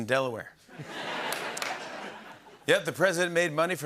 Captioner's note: laughter